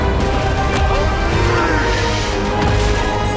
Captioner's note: Elven King screams; dramatic music continues